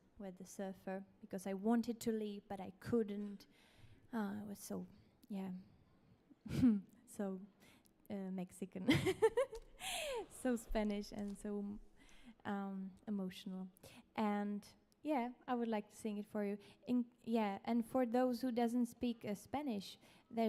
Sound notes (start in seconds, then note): 8.0 laughs